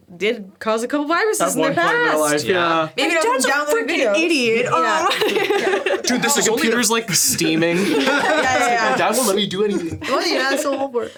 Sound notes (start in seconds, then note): 5.8 laughs; 8.1 all laughing